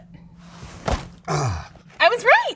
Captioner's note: grunting